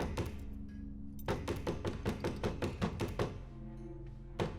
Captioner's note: frantic knocks